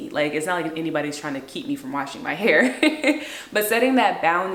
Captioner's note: laughs